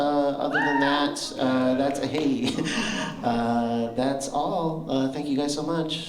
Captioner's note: single cheer